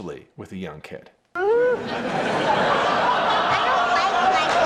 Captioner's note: audience laughs